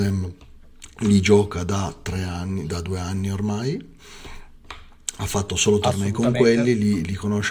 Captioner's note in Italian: sbuffare